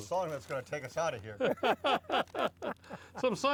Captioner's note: all laughing